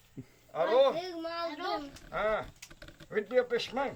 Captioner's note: child speaking Yanomami; speaking Yanomami